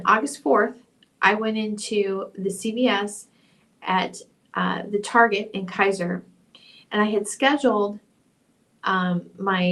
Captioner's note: audio altered